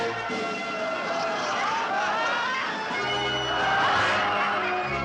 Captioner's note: audience laughs